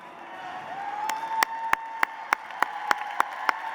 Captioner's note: applause